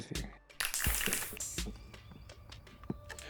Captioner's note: plastic crinkling